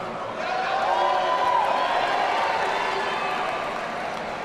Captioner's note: audience cheering